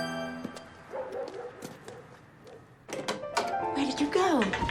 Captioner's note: dog barking